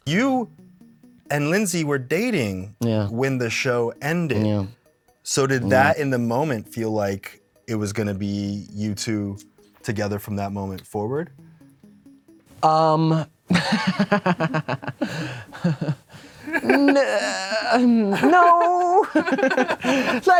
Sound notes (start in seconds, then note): 13.5 Devon laughs; 16.4 Anthony giggles